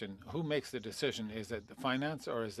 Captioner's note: speaking French